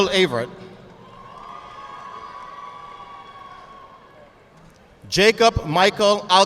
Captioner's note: audience clapping